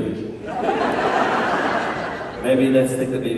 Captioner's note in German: Menge lacht